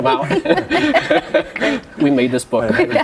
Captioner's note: laughter